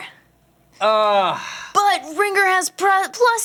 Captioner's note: groans